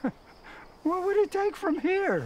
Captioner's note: chuckles